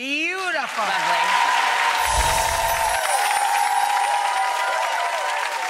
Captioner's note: audience applause